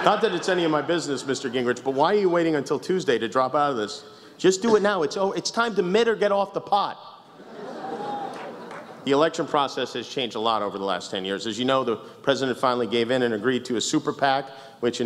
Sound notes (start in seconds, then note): 7.8 a cheer